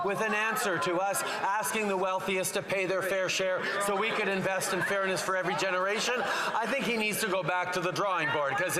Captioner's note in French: voix de l'interprète